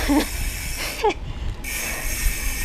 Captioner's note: laughs